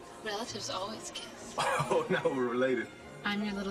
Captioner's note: laughs